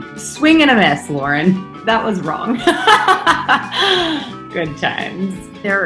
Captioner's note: laughs